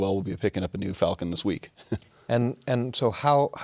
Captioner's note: laughs